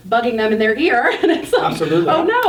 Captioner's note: laughing